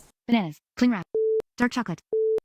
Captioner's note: beep